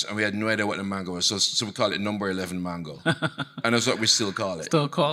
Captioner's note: chuckling